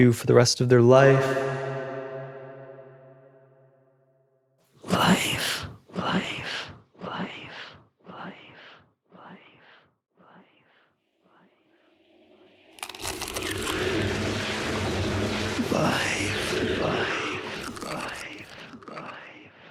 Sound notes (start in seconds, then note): 12.8 egg shell cracking